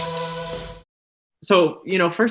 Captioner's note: logo rings in